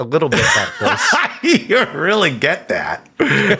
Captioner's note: Sam laughs